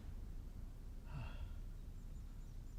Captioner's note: sighs